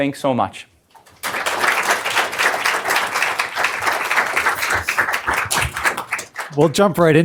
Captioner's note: applause